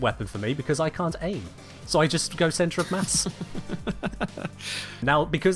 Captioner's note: laughs